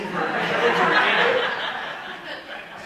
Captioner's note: audience laughing